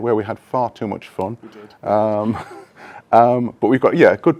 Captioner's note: laughs